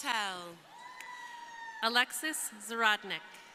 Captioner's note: crowd cheering